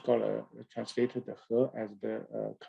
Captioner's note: speaking in a foreign language